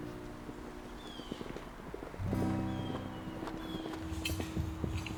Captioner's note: horse hooves clomping